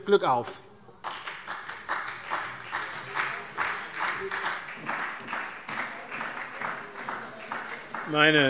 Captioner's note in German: Beifall bei der SPD